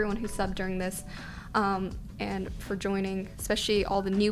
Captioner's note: none